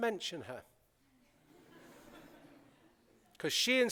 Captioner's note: laughter